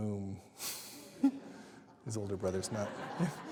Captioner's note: laughter